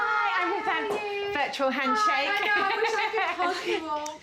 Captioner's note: laughing